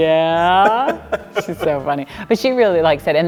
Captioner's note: laughing